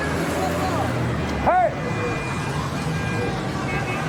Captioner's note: street sounds